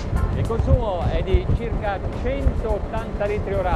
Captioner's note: speaks Italian